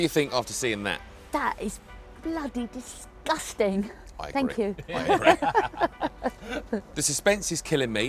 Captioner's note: laughs